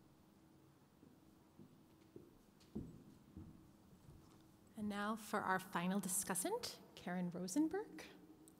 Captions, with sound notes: - [Voiceover] And now for our final discussant, Karen Rosenberg.